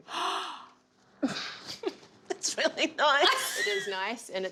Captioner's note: gasps